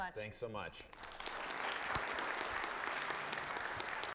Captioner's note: audience applauding